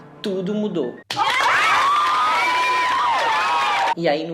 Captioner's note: sound of palms